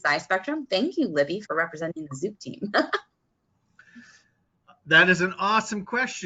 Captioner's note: chuckling